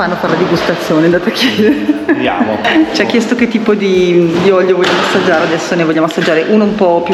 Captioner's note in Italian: risate